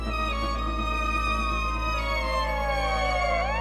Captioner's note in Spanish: sirenas de policía